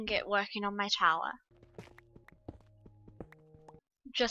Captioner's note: silence